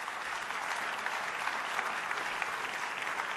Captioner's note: applause